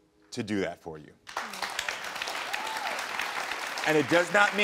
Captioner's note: audience applauding